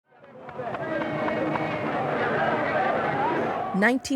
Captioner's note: horns blaring